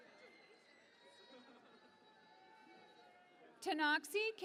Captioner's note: cheering and Applause